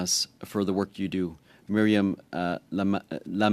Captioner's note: speaking French